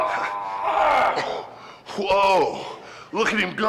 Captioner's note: little brother groans